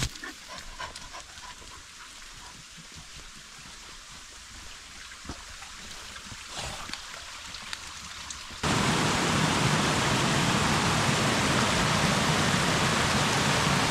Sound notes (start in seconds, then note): 8.6 waterfall